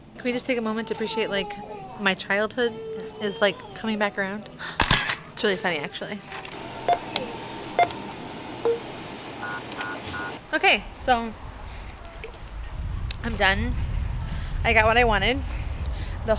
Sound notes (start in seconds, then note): 5.0 camera shuttering; 7.1 scanner beeping